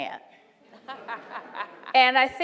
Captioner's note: laughing